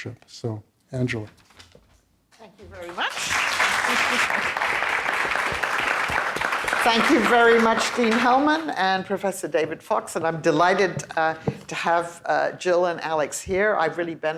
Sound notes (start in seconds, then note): 2.8 applause